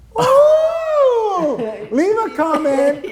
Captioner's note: laughs